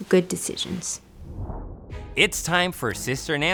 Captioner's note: air whooshing